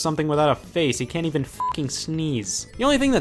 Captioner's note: beep